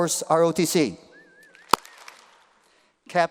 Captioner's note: applause